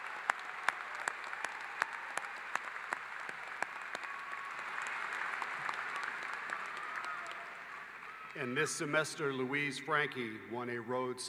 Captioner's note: applause